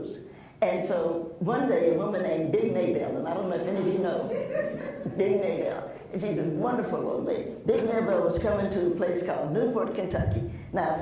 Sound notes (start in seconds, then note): 3.9 laughs